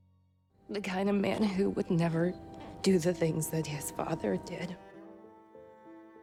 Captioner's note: voiceover